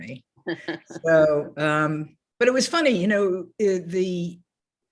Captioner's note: laughs